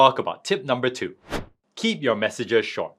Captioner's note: transition whooshing